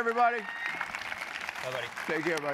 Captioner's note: applause